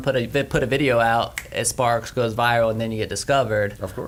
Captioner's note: snaps fingers